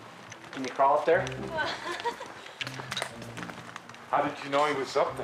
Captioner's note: person laughing